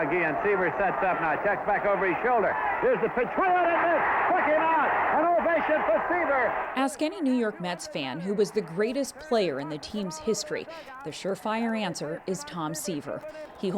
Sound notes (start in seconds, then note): 5.0 cheering and applause